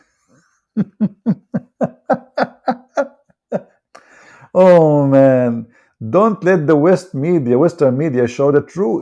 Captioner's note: Ketawa